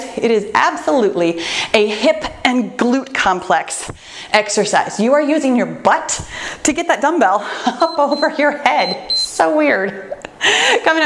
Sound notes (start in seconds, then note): 7.7 laughs; 8.7 timer beeps; 10.2 laughs